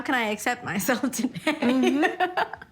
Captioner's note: laughter